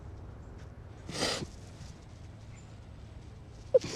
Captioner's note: sniffling